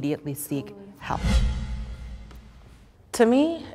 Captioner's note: wind swooshing